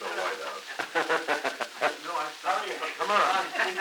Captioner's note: production chatter; Truman laughing